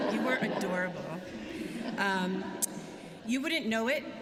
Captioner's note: laughter